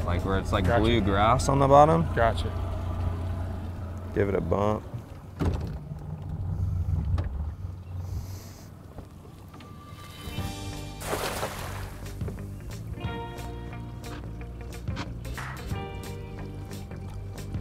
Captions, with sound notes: like where it's like blue grass on the bottom. - Gotcha. Give it a bump. (gentle upbeat music) (net splashing in the water)